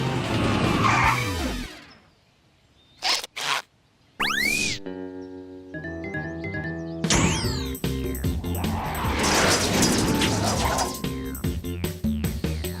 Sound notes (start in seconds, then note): 0.6 screeching; 3.0 squeaking; 8.0 jazzy music; 8.1 whooshing